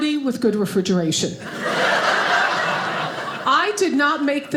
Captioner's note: audience laughing